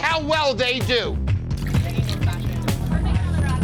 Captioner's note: chatter